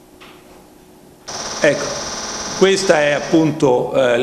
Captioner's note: sound of a burst of pulses being emitted from the device